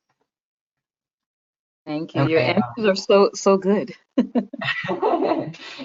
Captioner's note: laughing